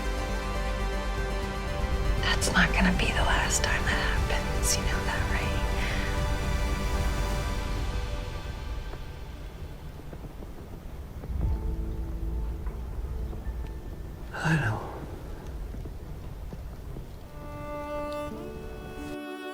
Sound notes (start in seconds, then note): 2.5 voiceover